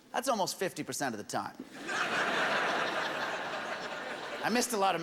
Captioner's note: laughter